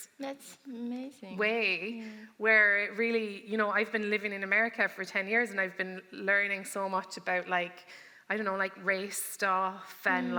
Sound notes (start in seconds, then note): none